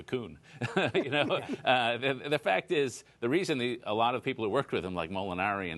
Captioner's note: laughter